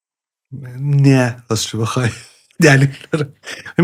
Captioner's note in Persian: خنده